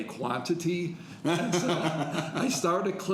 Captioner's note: laughing